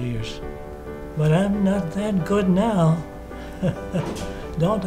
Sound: laughs

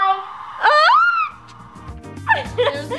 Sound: shrieks

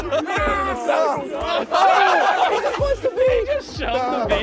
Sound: contestants screaming and laughing; contestants laughing

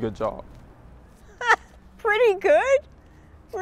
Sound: laughs

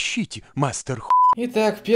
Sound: beep

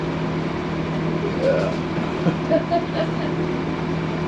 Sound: laughing

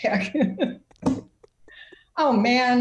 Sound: laughter

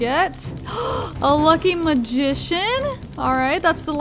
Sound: gasps

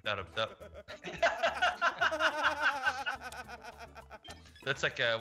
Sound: laugh

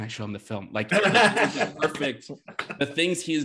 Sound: laughter drowns out speaker

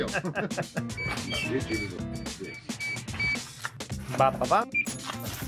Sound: laughing; scanner beeping

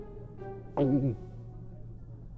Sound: nervous Gulp

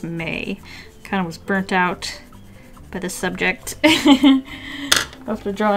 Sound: laughs

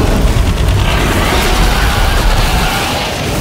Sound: moon lord dies followed by a loud scream

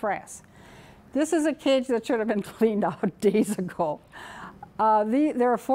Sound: chuckling

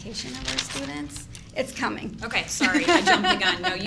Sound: laughs

